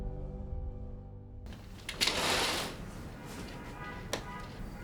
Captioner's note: blinds opening